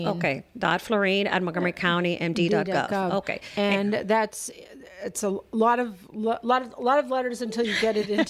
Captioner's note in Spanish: Hablando ingl\s